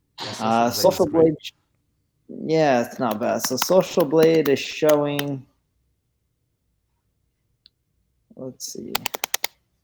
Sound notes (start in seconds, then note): 2.9 keyboard clicks